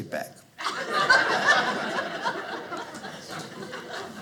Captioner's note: audience laughing